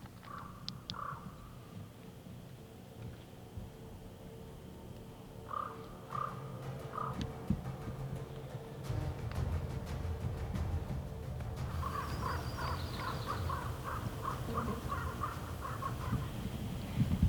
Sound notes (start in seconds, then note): 0.2 bird cawing; 11.6 birds cawing